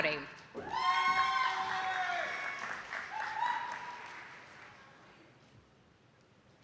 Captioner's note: audience applauding and clapping